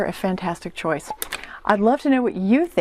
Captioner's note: pop